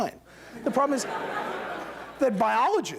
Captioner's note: laughter